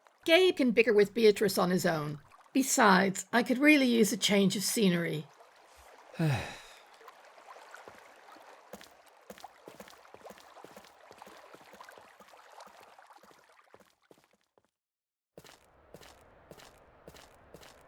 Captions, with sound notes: Gabe can bicker with Beatrice on his own. Besides I could really use a change of scenery. [Zarek sighs]